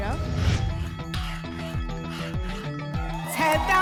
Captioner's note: alarms; scratching sounds